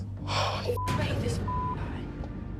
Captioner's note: sighs; beep